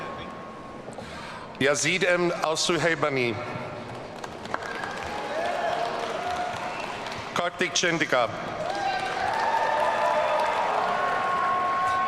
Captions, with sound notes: Yazed Alsuhebany. (audience cheering) Karthik Chendika. (audience cheering)